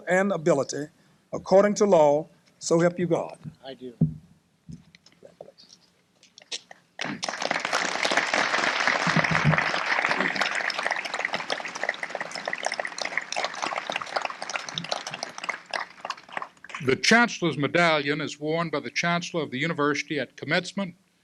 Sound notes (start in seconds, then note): 6.9 applause